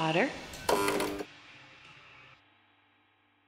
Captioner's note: light buzzes